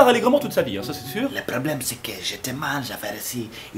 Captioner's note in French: accent Africain